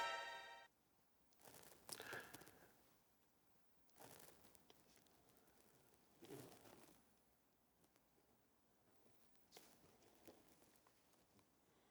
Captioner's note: silence